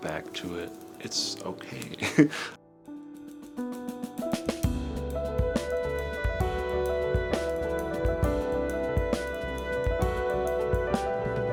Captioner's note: chuckles